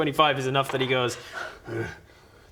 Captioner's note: hrrh